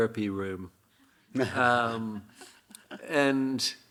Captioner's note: Hiroshi chuckling; audience chuckling